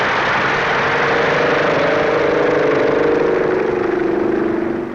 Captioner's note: plane taking off